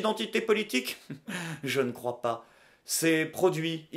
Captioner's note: chuckles